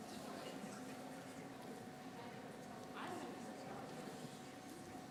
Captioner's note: teachers conversing